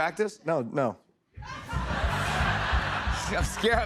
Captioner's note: laughter